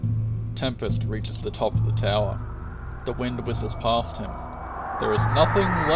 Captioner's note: Tempest reaches the top of the tower. The wind whistles past him